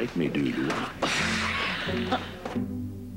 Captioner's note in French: Soupir